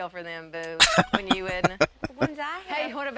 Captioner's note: laughing